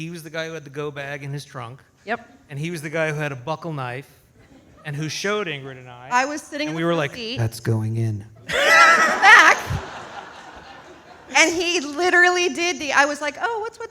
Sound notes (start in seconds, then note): 8.4 audience laughs